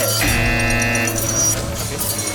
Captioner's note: BZZZZZzzT